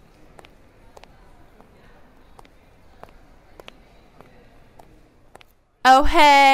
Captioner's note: walking sounds